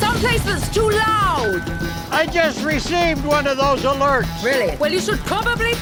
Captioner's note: watch chimes; shouting